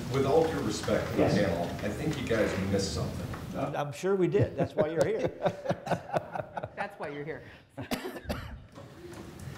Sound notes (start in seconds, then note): 4.5 laughter